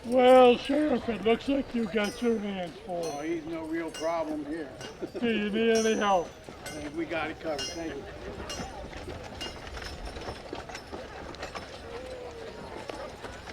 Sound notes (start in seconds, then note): 8.6 people chattering